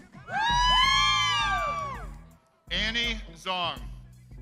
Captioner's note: crowd cheers